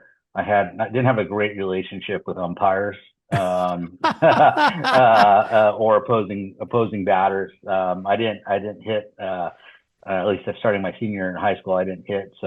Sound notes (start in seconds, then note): 3.3 laughter